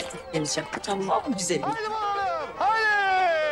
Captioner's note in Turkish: Gülüyor